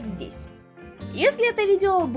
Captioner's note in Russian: секундное молчание